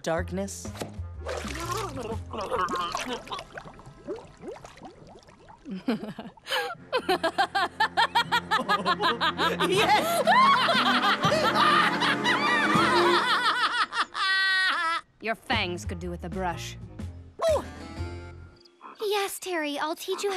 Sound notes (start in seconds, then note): 3.5 gurgling; 8.6 both laughing